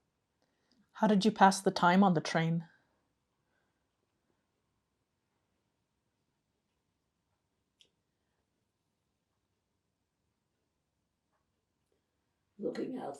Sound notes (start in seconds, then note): 3.2 pauses 8 seconds